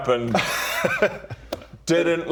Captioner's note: unconvinced laugh